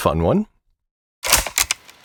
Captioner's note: click